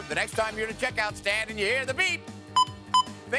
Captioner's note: beep beep